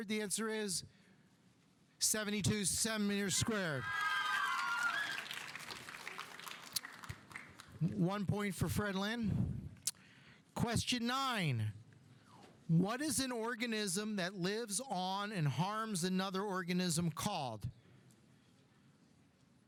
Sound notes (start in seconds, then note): 3.2 audience cheering; 3.3 audience applauding